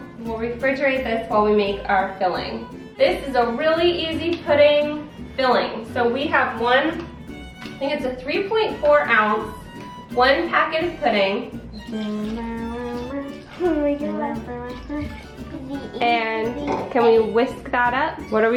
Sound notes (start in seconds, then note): 11.7 humming